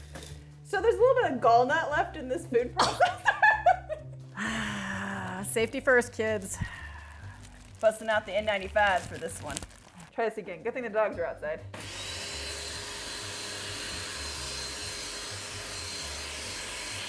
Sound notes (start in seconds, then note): 2.8 gags; 11.7 food processor whirring